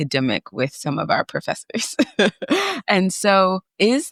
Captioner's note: chuckles